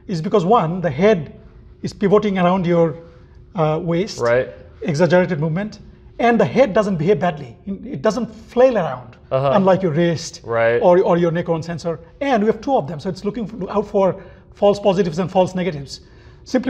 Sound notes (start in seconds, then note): 10.4 murmurs